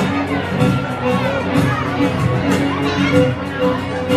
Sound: speaking faintly

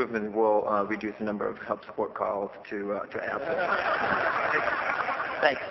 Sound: laughter

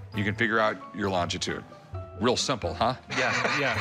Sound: laughs

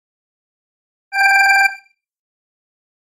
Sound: alarm tone

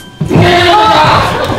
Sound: screams

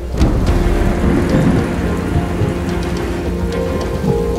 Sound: thunder roaring

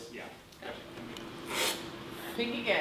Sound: slurping

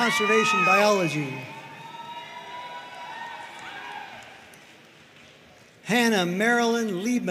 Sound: audience cheering and applauding

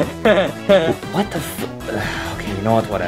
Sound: sighing

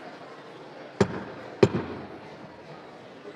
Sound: gavel bangs

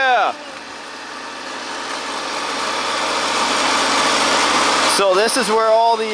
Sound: machine engine roaring

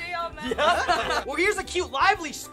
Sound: laugh

